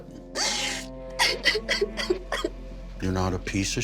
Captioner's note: sobs